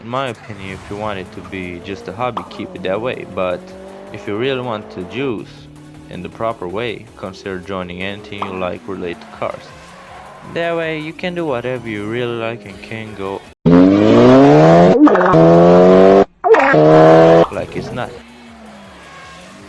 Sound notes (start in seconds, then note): 15.3 car reving